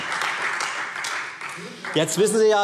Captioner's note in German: Beifall Freie Demokraten